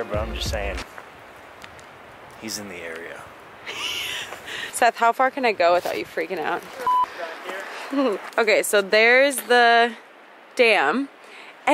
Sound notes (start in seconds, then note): 3.6 laughs